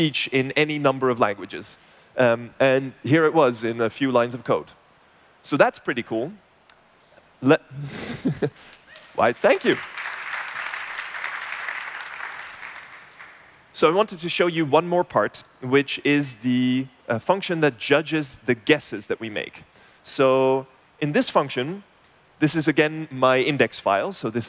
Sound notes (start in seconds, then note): 8.9 applause